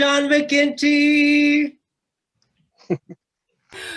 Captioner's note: laughs